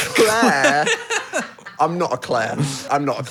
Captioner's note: group laughing